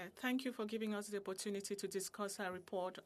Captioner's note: speaking in French